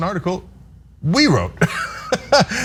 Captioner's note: laugh